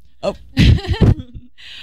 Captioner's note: laughter